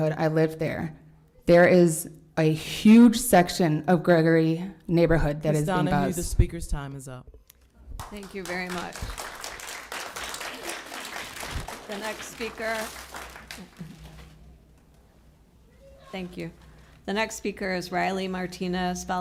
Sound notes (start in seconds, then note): 9.6 applause